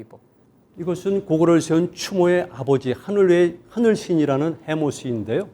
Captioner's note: speaking in Korean